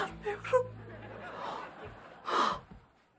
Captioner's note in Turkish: Gülme efekti